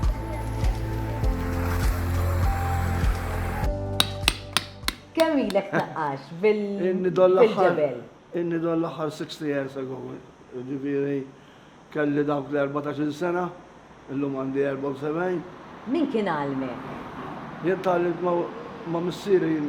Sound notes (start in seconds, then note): 1.4 truck engine; 4.0 light thudding